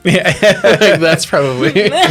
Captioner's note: laughter